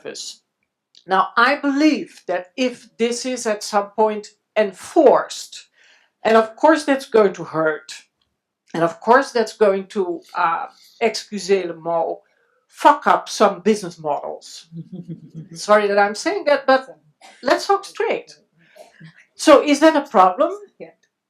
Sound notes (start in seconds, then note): 9.4 speaks in foreign language; 14.7 laughs